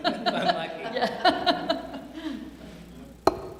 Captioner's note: laughter